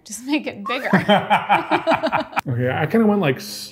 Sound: both laughing

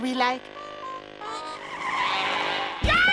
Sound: tires squeal

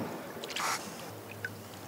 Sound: squawks

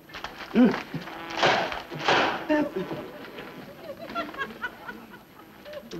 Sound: fly loudly buzzing around; book thumping loudly against surface; fly buzzing around

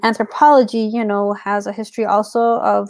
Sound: speaks portuguese

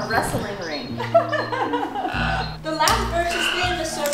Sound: laughter

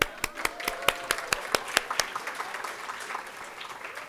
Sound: audience applauding

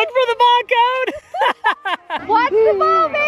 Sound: laughs

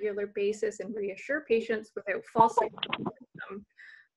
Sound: mic cuts out

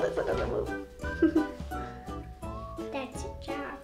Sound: woman laughs

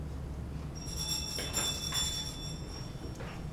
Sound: bell rings

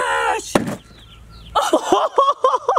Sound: loud thud; both laughing

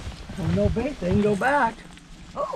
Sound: fish splashing

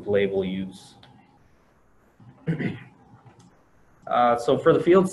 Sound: clears throat

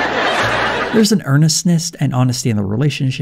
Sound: audience laughter

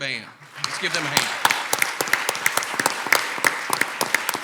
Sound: clapping

